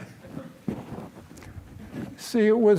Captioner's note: laughter